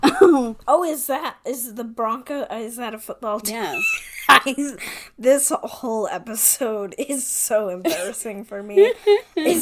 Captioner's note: laughs